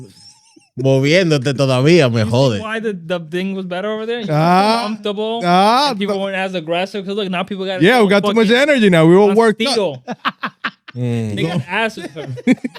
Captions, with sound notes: (Speaking In Foreign Language) You see why the thing was better over there? Ah. You were comfortable. Ah. And people weren't as aggressive, because now people got-- Yeah, we got so much energy now, we all worked up. (Laughing) They got asses, though.